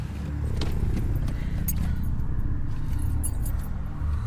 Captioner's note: air quavering